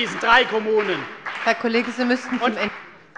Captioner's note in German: Beifall bei der CDU und dem BÜNDNIS 90/DIE GRÜNEN